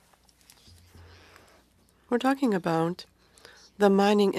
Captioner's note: speaking French